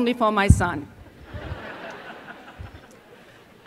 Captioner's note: laughter